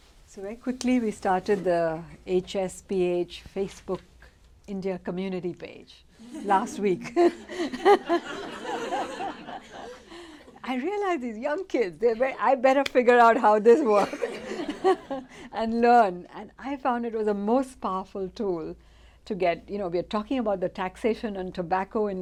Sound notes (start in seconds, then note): 6.3 laughter